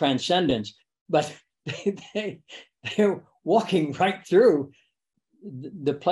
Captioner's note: laughs